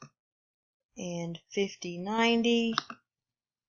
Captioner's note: click; click